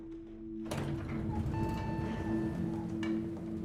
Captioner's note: elevator dings